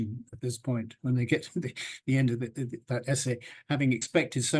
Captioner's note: chuckles